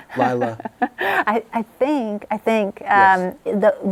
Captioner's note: laughs